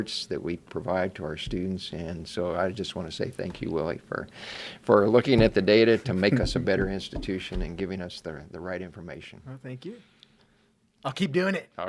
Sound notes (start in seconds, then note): 6.1 laughing